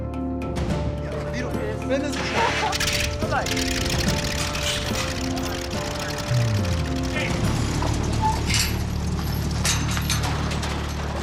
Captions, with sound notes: [ SPEAKING FOREIGN LANGUAGE ] [ ENGINE TURNS OVER ] BYE-BYE. OKAY.